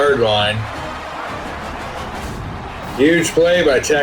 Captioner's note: crowd Noises